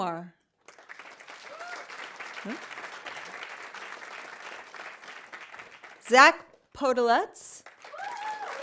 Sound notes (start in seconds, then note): 0.6 audience applauding; 0.9 audience cheering